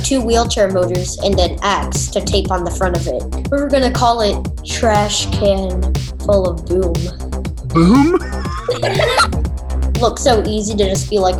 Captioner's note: laughs